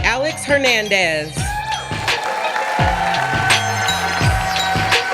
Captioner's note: audience applauding